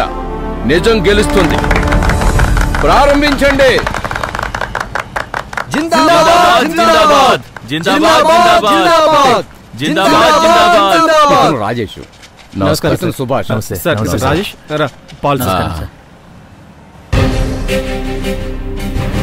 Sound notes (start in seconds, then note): 1.4 applause